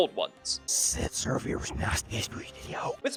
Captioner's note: weird backward whispering